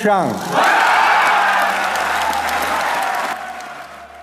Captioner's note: crowd cheering